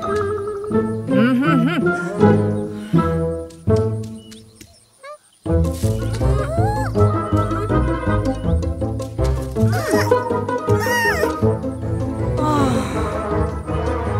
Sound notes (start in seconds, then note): 6.5 whining; 9.6 whining; 12.4 tired sigh